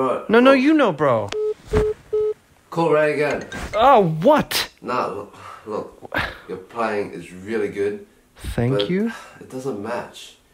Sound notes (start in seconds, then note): 2.1 phone ringing